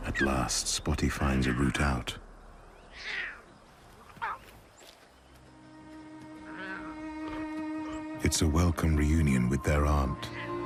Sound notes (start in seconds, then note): 3.9 cubs squeaking; 5.2 melancholy music